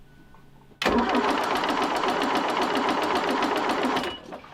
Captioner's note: motor whiring